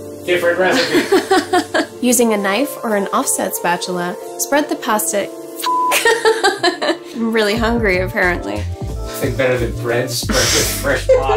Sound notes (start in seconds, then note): 0.7 laughs; 5.6 beep; 6.0 laughing